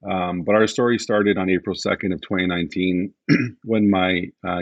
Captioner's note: clears throat